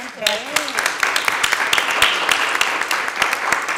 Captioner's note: members clapping